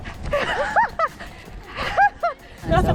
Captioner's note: laughing